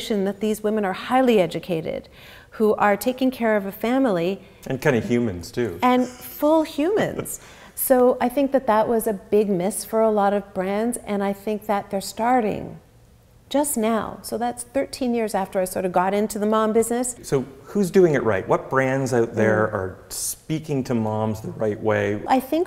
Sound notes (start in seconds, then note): 5.8 chuckles